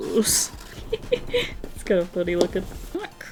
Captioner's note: laughs